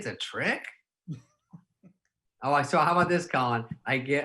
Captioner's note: laughing